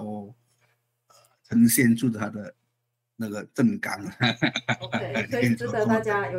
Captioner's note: haha